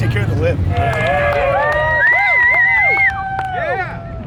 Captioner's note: crowd cheers